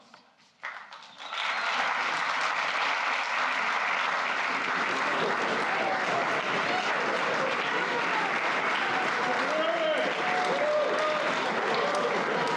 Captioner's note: applause